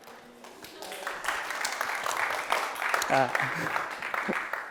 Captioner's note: applause